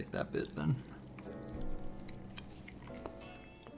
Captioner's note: chewing